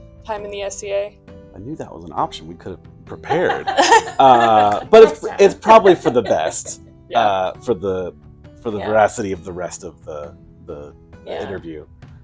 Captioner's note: chuckles all round